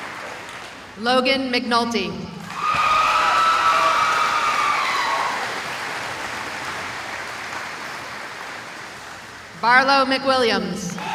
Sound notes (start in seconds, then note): 2.4 cheering